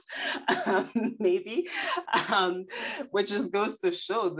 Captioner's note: laughing